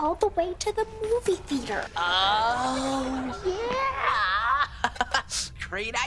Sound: chuckles

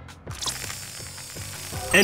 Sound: radar buzzing

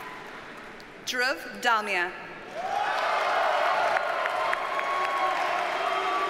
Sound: audience cheers and applauds

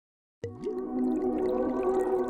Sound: liquid pouring; atmospheric electronic music

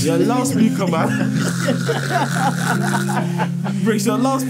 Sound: everyone laughing

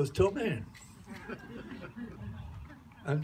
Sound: laughter

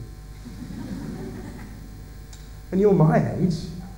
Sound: laughter

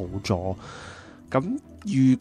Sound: deep breathe

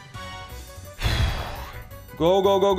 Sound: nervous exhaling

